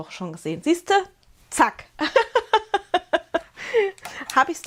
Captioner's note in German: Gelächter